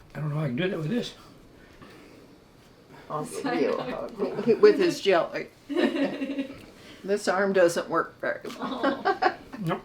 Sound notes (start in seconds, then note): 5.8 crew member laughs